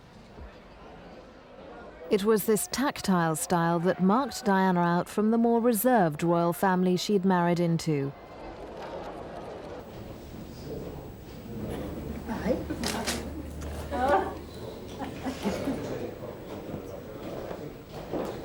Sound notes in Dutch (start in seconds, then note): 14.0 camera sluiter; 15.1 onduidelijk gebabbel